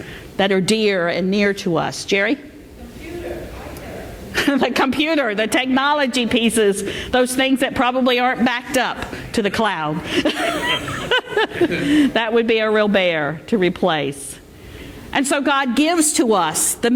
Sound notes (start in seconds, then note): 10.2 laughter